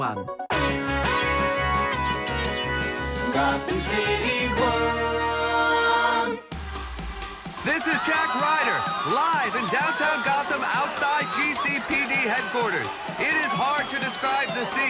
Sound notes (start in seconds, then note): 0.2 upbeat music; 7.9 crowd cheering; 8.6 dance music playing